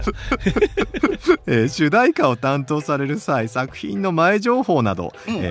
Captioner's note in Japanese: 笑い